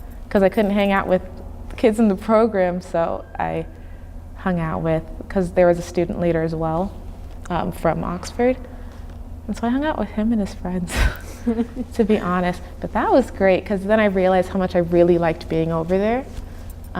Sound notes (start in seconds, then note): 11.0 chuckling